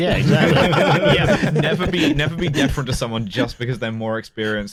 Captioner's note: laughter